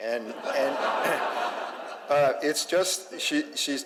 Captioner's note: audience laughs